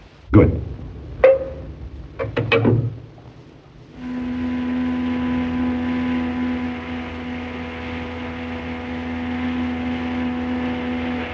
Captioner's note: train horn